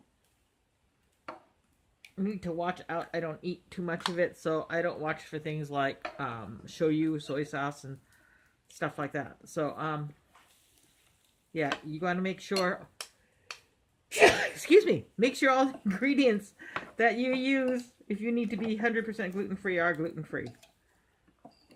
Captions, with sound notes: I just need to watch out I don't eat too much of it. So I don't watch for things like Shoyu- soy sauce and stuff like that. So, um Yeah, you want to make sure? *Sneezes* Excuse me! Make sure all ingredients that you use, if you need to be hundred percent gluten free, are gluten free.